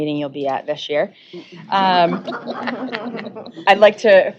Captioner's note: laughter